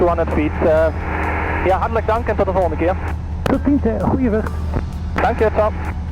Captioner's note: Dutch language